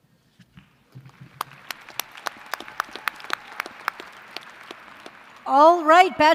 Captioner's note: applause